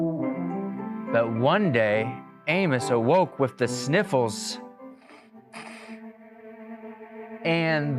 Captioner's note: nose sniffling noise